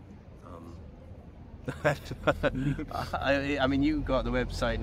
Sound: laughing

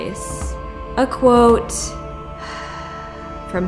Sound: sigh

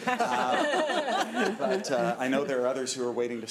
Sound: laughing

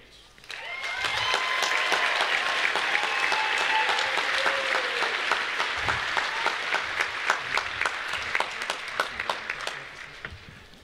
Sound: applause

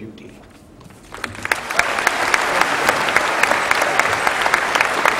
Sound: applause

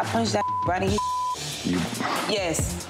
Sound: beep

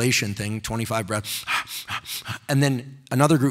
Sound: deeply breathing

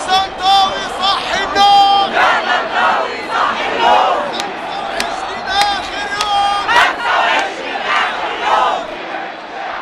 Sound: chants

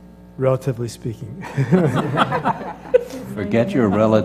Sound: laugh

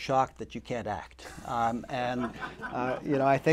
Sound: laughter

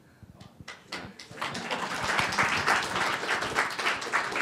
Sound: applause

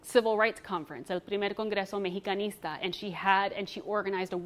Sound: speaks foreign language

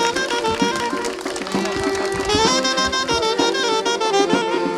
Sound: crowd clapping

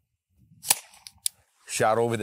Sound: shot fires

